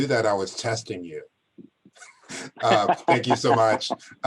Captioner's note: laughter